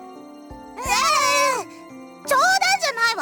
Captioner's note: sputtering disbelief